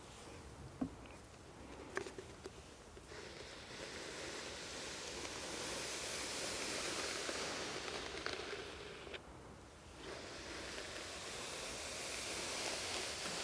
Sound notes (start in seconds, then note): 3.6 hair brushing